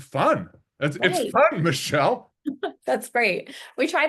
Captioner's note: laughs